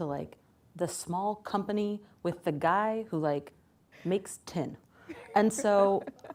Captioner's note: laughs